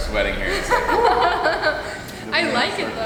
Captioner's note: laughing